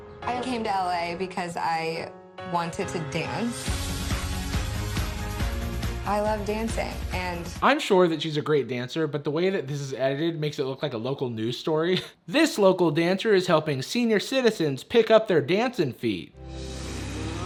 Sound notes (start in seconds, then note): 2.9 upbeat pop music; 11.9 chuckles